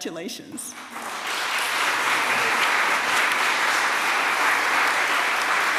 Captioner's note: applause